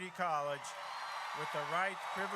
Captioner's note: audience cheers